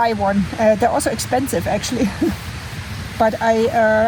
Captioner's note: laughs